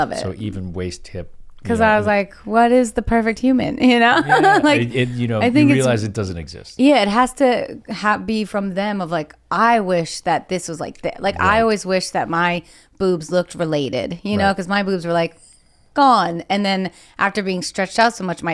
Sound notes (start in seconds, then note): 4.1 laughs